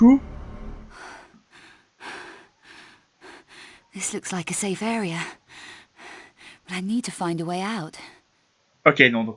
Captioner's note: breathing and talking